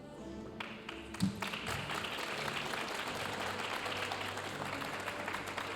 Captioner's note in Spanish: aplausos de la audiencia